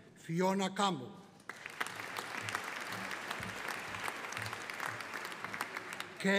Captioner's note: audience applauding